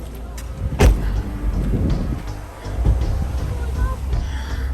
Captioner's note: door slams